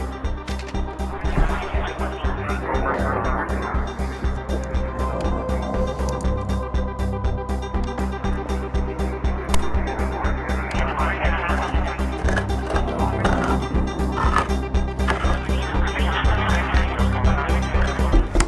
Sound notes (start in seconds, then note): 12.5 sound of can opening